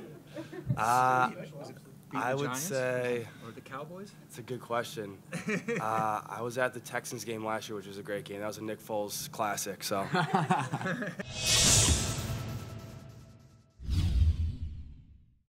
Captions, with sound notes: --be the Giants? I would say-- --or the Cowboys? It's a good question. [LAUGHTER] I was at the Texans game last year, which was a great game. That was a Nick Foles classic. [LAUGHTER] [SOUND EFFECTS]